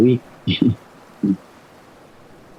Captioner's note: chuckles